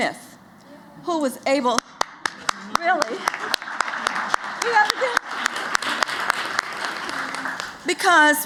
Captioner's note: applause